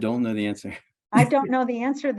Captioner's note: laughs